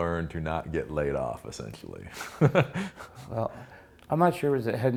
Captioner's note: laughs